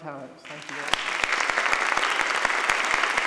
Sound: applauding

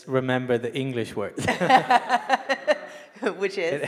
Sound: laughing

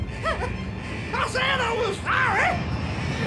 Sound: whimpering

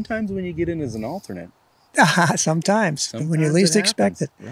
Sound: laughing

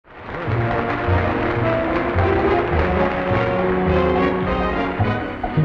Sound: audience clapping; upbeat music

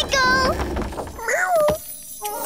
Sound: meowing

